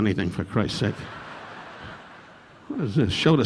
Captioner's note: audience laughing